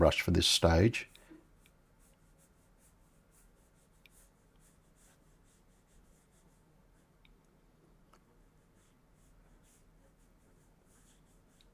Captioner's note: silence